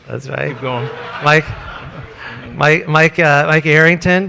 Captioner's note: audience laughs